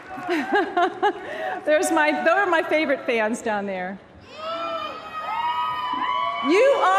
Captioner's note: applause